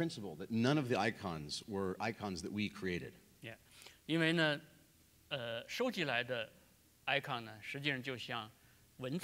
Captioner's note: speaking in Chinese; speaking in Chinese